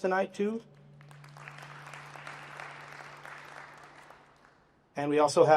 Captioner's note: applause